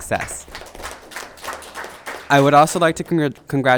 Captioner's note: audience clapping hands